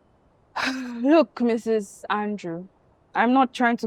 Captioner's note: exhales